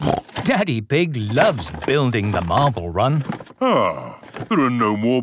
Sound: snorting

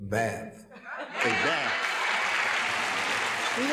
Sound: applauding

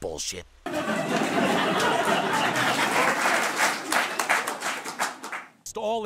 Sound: audience Laughter

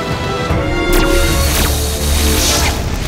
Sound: lasers firing

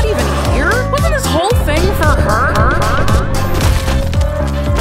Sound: echoes of the word "her" are repeated

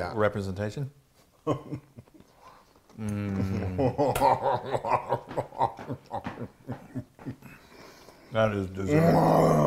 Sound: laugh

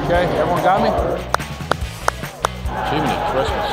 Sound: clapping

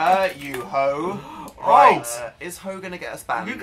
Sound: gasps

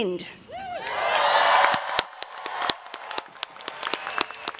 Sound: applause

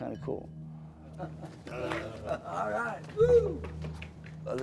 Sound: laughing

